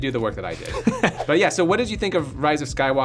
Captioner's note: laughs